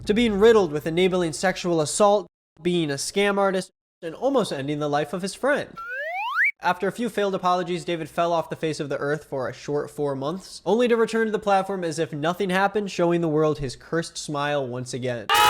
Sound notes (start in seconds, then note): 5.8 slide whistle toots